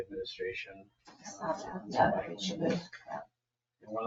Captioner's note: people speak distantly